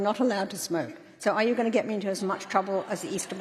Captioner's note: laughter